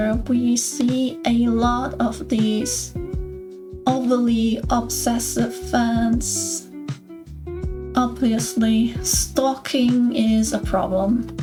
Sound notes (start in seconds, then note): none